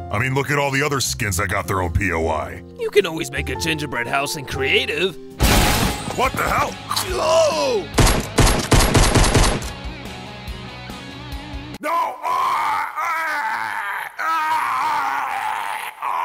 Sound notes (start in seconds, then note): 5.4 door crashing; 7.0 gingerbread screams; 7.9 gunshot bangs; 9.2 upbeat rock music; 11.8 gingerbread screaming